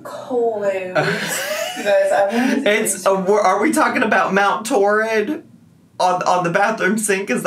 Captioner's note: laughs